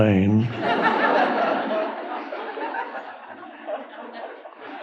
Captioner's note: audience laughing